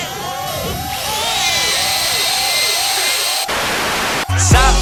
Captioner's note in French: Alarme hyper forte + cri de bébé; Alarme hyper forte + cri de bébé + son de perceuse